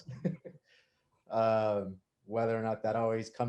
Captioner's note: laughing